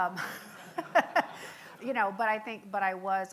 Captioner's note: laughing